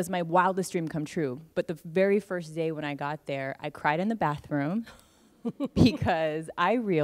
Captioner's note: laughs